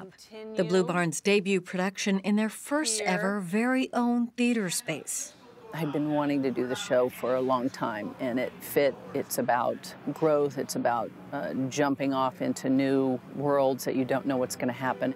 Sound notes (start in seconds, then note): none